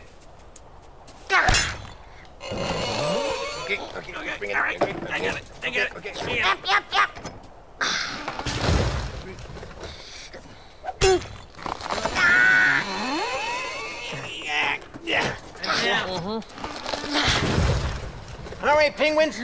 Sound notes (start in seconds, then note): 2.4 ice squeaking; 9.3 grunting